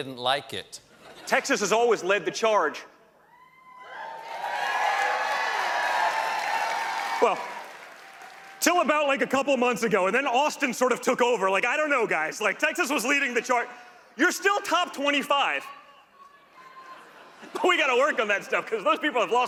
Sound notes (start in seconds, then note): 4.1 applause